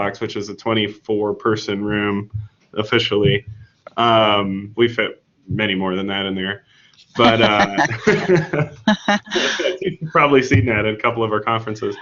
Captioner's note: laughing